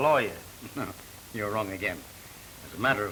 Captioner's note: laughs